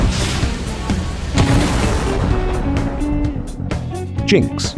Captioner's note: rocket launcher fires; explosion